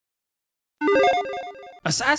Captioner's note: logo chiming